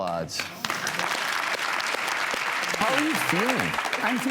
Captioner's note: audience applauds